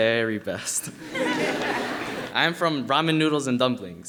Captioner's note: audience laughing